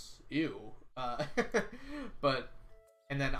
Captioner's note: laughs